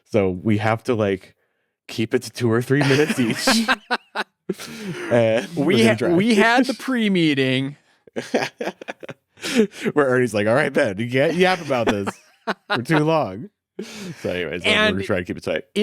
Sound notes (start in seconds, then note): 2.8 chuckles; 8.1 laughs